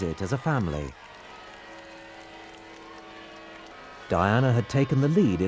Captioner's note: crowds applauding; crowds cheering